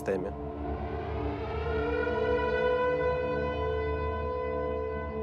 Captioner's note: air raid sirens blaring